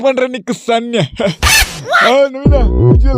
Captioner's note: laugh